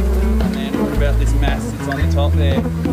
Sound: bees buzz

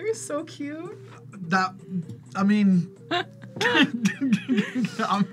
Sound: both laugh

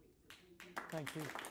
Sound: applause

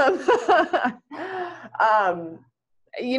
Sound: laughter

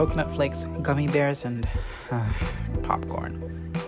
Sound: sigh

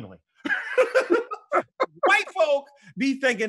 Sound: both laughing

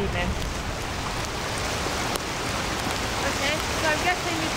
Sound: rain

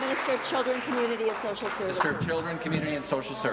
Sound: applause

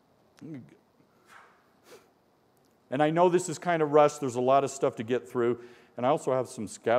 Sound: sniffing

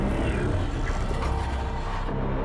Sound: eerie robotic chittering

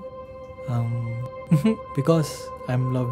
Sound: laughs

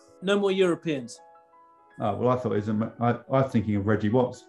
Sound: none

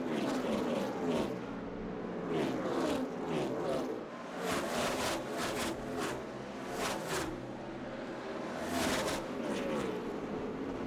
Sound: engines roar

